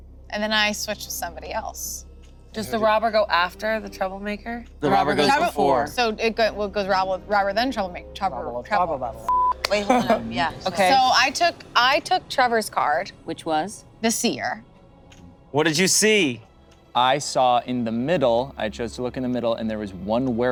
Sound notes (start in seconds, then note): 9.2 beep